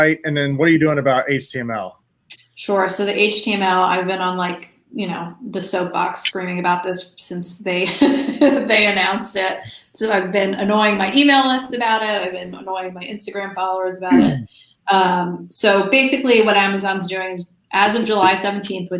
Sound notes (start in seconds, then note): 7.7 laughs